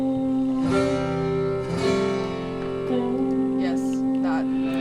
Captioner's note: bandmate humming